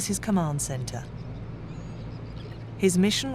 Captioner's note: birds chirping